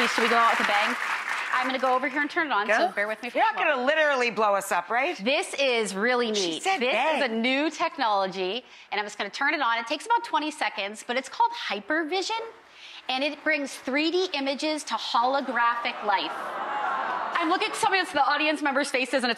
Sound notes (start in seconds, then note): 15.9 audience gasping